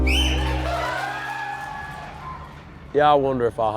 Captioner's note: crowd cheers